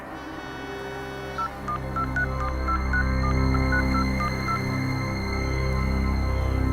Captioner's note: digital button pressing sounds